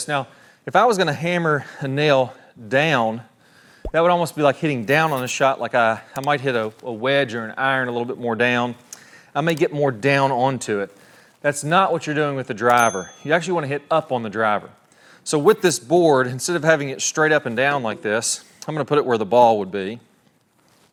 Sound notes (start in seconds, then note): 3.8 bubble popping